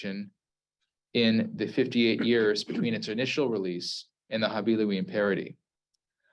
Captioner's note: Hebrew